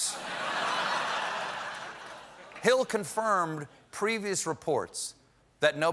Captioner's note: laughter